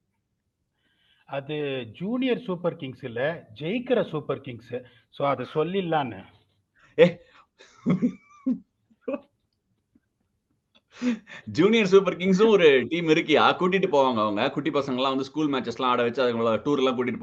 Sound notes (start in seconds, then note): 7.6 laughs